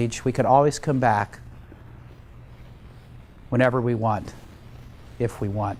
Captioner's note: none